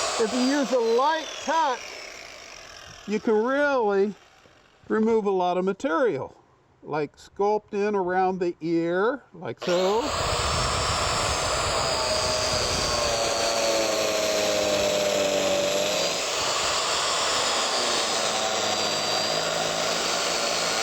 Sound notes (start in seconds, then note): 13.0 cutter whirring